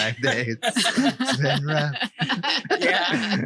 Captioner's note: laughing